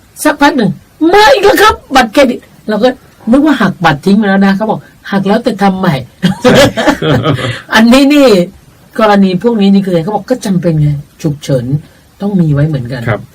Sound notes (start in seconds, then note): 6.2 both laughing